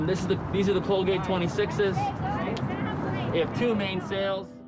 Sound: excited talking

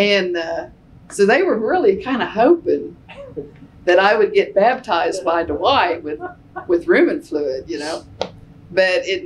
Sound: laughter

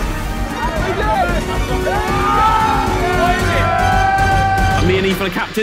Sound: water splashes; Sidemen shouting; dramatic music

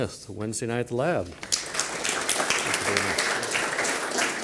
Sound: applause

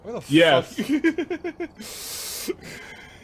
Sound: laughs, inhales through teeth

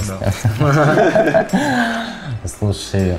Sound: gay giggling

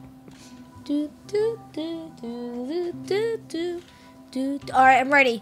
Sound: imitating game music

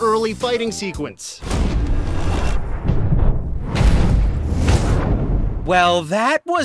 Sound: in-game audio

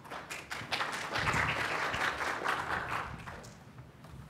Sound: applause

